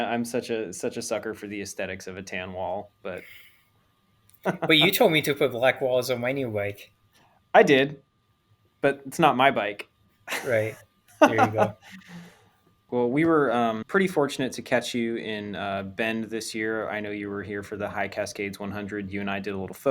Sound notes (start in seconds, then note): 11.2 laughs